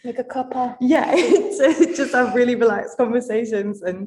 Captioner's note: laughs